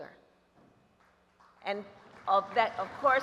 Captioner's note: applause